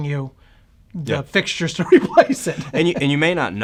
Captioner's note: laughs